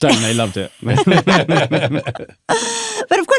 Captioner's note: all laughing